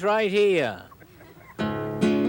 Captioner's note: audience chuckles; upbeat guitar music